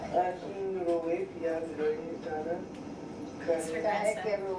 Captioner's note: man speaks in foreign language